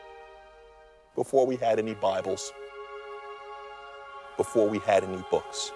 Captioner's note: voiceover